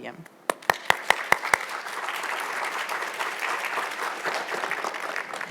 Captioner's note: audience applauds